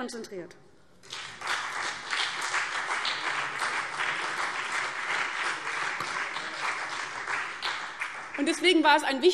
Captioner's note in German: Beifall CDU und BÜNDNIS 90/DIE GRÜNEN